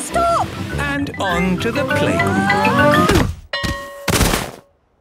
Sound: exclaiming and grunting; bell ringing

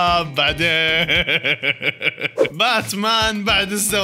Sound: laughter

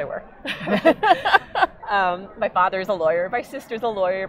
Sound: laughing

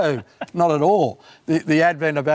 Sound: laughs

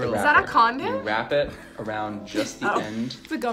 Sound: both laugh

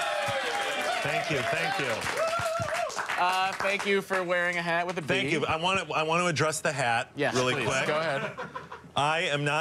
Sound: applause

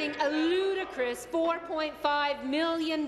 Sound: applause

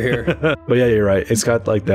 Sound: laughter

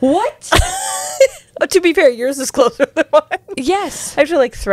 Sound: laughs

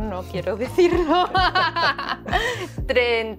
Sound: laughter

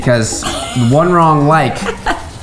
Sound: laughs

